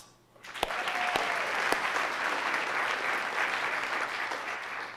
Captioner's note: audience applauding